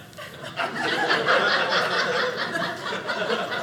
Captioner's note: audience laughing